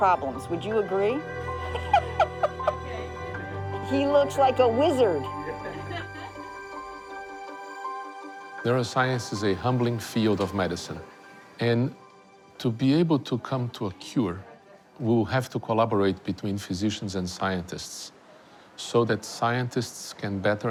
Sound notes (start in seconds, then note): 1.4 laughs; 5.6 all laugh